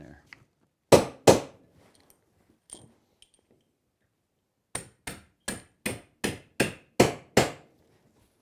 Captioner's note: hammering